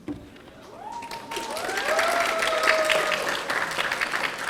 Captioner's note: audience cheering